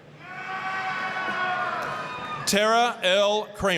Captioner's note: applause, cheering